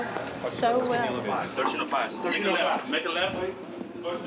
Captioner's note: chatter